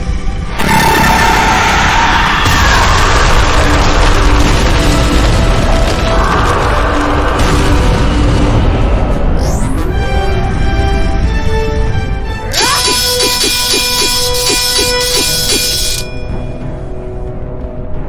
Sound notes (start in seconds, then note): 1.0 fire blasting; 12.6 electricity crackling; 12.6 swords clanging